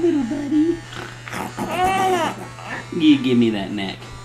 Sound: baby laughing

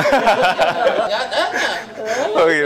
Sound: laughing

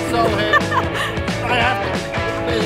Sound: laughs

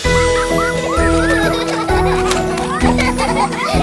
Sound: laughing

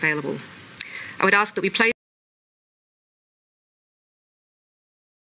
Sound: audio cuts out

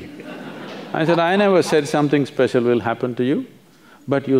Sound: laughter

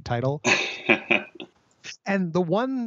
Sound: laughs

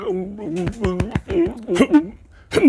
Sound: choking noises; footsteps; grunting

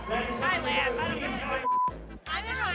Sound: beep

